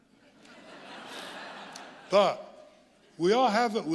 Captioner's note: audience laughing